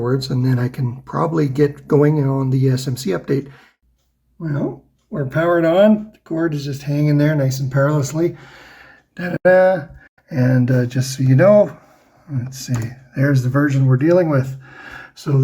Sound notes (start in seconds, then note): 9.2 happy noise